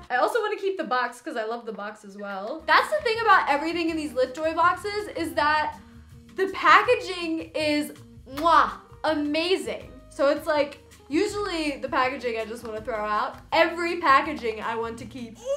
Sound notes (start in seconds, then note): 8.3 kiss noise